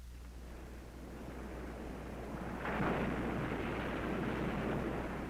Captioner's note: ocean waves crashing